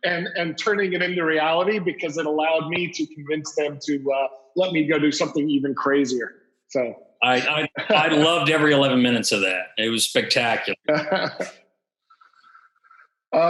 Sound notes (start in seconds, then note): 0.0 laughs; 7.2 laughs